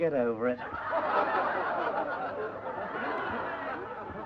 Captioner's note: laughing